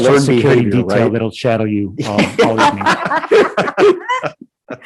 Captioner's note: group laughing